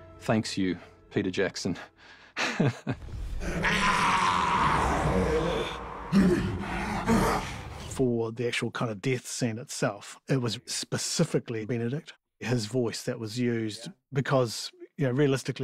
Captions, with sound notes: ...thanks you, Peter Jackson. Heh. [GRUNTING] [GASPING] For the actual kind of death scene itself... ...it was specifically Benedict. His voice, that was used, because realistically...